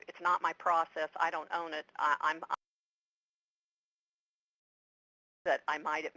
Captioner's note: audio cuts out